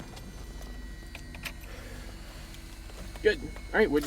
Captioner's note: click; engine powers down